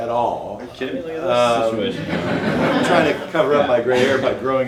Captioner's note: audience laughing